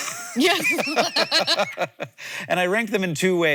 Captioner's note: both laughing